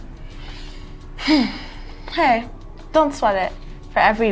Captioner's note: sighing